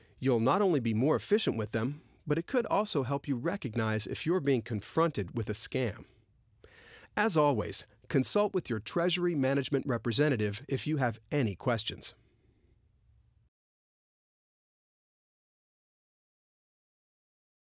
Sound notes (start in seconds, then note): 12.2 no speech